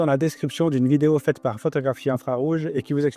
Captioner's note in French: in french